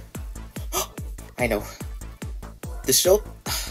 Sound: gasp; sigh

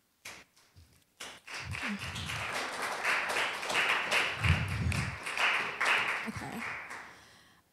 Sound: applause

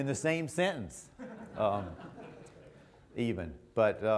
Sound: audience laughter

